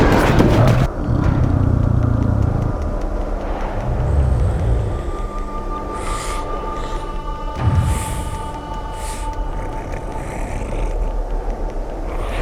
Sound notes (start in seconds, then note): 1.2 bear grunts; 5.0 suspenseful music